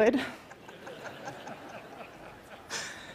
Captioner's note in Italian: Risate